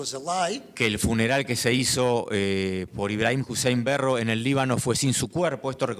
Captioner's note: speaking in foreign language